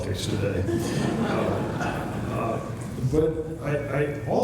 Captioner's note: laughter